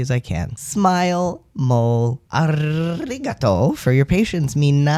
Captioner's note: rolls r